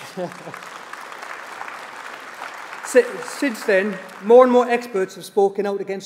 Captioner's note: applause